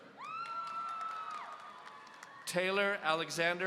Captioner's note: audience cheering